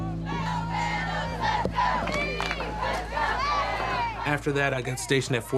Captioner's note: soldier cheering